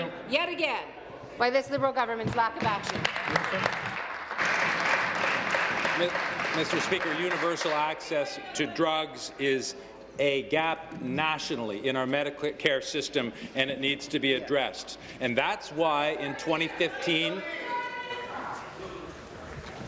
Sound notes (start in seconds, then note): 7.3 applause